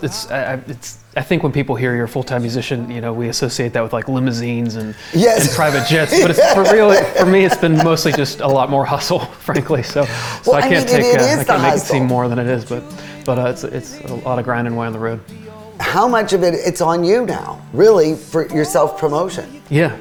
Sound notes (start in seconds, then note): 5.5 laughing